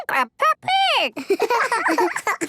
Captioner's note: giggling